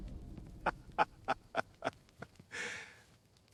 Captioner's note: heavy impact